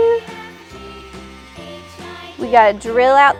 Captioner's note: drilling